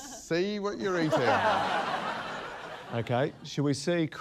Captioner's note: laughter